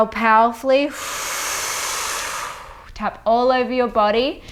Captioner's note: exhales